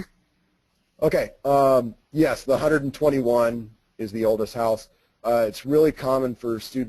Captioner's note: voiceover